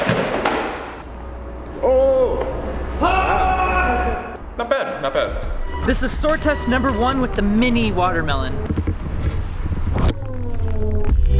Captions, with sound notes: Oh! (group shouting) Not bad, not bad. - This is sword test number one with a mini watermelon.